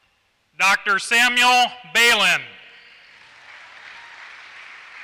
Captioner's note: applause